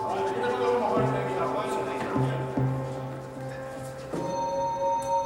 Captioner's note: all chattering